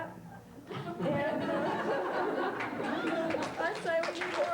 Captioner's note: laughter